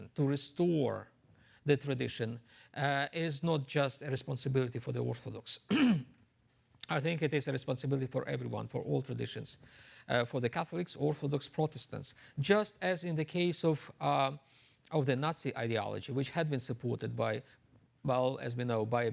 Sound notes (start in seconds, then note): 5.7 clears throat